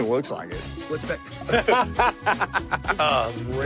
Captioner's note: laughter